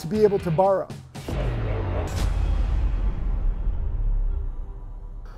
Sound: electronic explosion

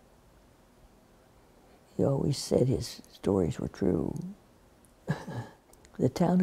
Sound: laughs

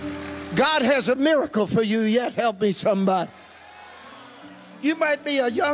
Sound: congregation cheering

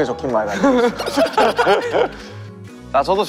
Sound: hahaha

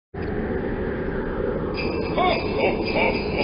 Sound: wind blowing; bells jingling

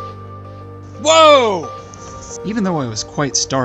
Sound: screamed

